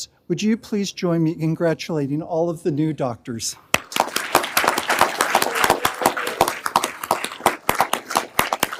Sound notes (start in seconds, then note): 3.7 everyone applauding